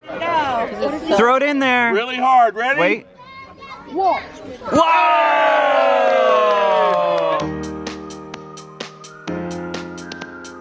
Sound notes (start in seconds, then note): 4.7 cheering; 7.0 upbeat music